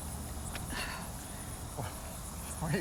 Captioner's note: Laura sighs